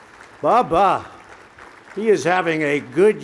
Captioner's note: applause